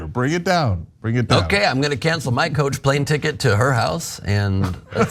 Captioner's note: laugh